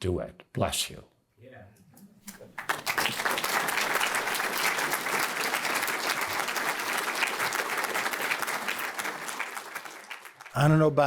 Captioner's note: applause